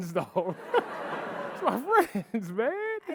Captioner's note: audience laughing